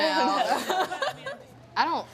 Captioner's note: laughs